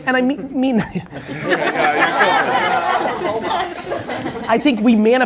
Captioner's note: laughing